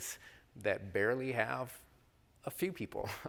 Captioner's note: chuckles